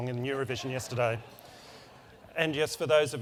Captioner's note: laugh